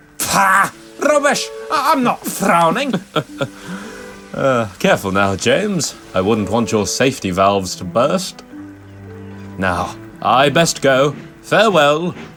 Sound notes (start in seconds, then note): 4.8 laughs